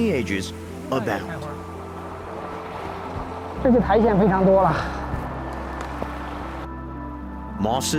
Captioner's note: speaking in foreign language